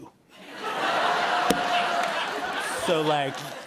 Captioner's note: laughter